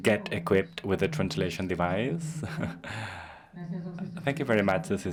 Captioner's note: laughs